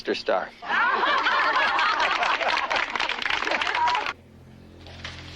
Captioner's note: laughter and applause